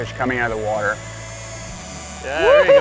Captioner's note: fishing line whirring